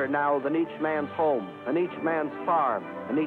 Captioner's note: none